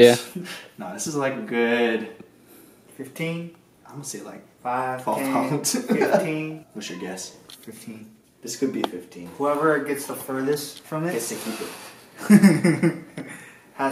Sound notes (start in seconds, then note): 5.2 laughing; 12.2 laughs